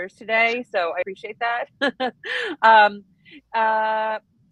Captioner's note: laughs